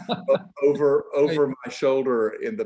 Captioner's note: laughing